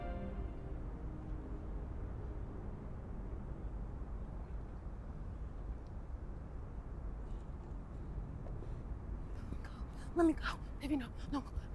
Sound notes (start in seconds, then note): 0.0 wind blowing